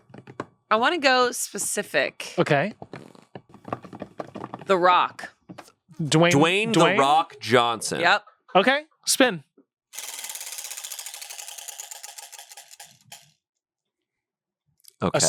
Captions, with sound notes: - I wanna go specific. - Okay. - The Rock. - Dwayne The Rock Johnson. - Yep. - Okay, spin. (wheel rattles)